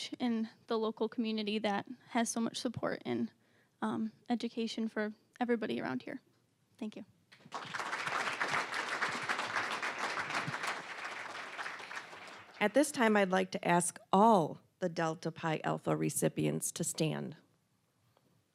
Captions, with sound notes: in the local community that has so much support, and education for everybody around here. Thank you. (applause) >> At this time, I'd like to ask all the Delta Pi Alpha recipients to stand.